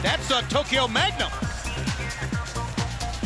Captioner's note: crowd cheering